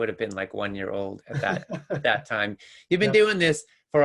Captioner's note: laughs